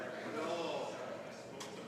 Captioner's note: speaking French